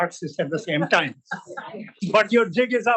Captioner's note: laughter